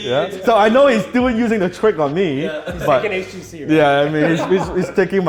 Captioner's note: laughing